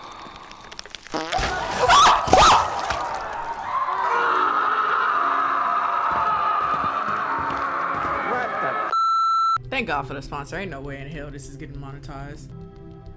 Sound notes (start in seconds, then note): 1.3 screams; 4.3 people screaming; 8.9 beep